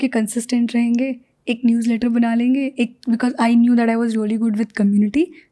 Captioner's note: speaks in Hindi